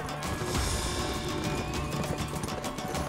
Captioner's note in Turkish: At kişniyor